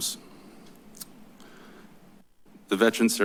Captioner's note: clicks tongue